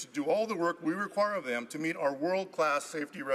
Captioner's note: none